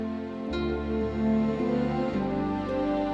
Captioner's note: none